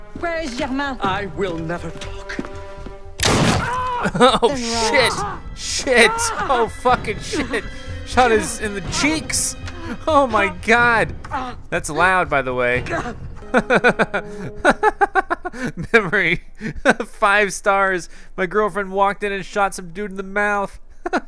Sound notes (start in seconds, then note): 3.2 gunshot; 3.9 yells; 12.8 laughs; 21.1 laughs